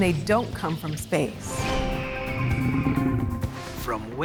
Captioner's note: bird screeching, lion groaning